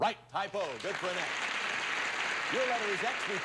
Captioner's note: audience applauding